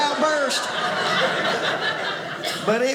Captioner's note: audience laughing